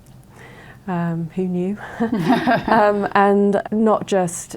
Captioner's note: both laugh